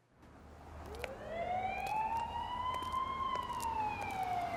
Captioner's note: siren